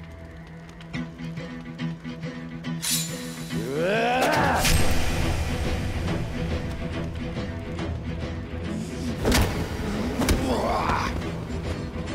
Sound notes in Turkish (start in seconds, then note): 3.6 Bağırma Sesi; 8.9 Dövüş Sesleri